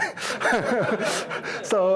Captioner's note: participants laughing